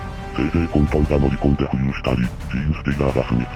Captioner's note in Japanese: 咳払い